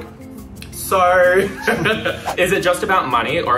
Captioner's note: both laughs